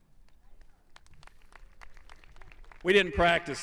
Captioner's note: audience applauding